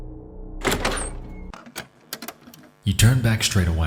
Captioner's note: door opens